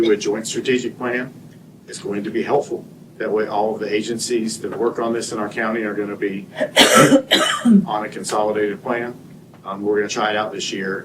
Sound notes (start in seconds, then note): 6.6 clears throat; 6.6 cough